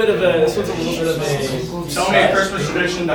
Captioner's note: shushes